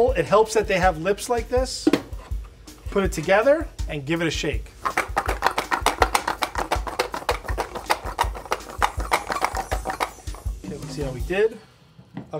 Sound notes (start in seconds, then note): 4.8 bowls clattering; 4.9 saucy music